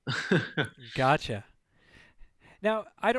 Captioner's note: laughs